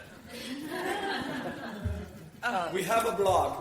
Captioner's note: audience laughs